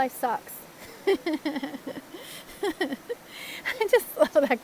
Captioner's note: laughs!